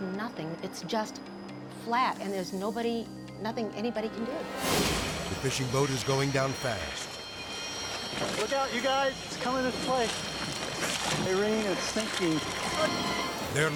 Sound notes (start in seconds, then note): 4.5 graphics whooshing; 7.1 tense music; 10.1 tense music; 12.3 tense music